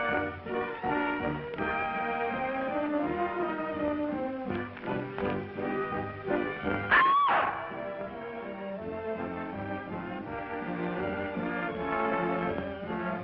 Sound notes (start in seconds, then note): 6.6 shouts